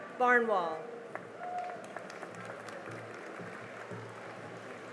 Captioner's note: cheering and applause